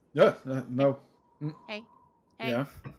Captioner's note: confused